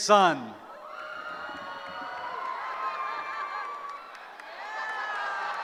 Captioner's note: cheering